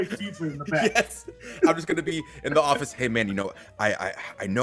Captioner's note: laugh